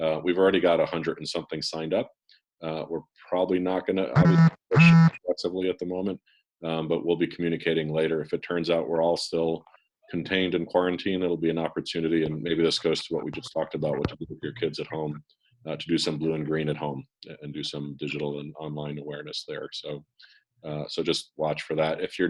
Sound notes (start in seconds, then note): 4.1 phone buzzes